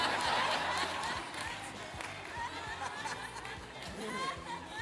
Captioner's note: audience laughing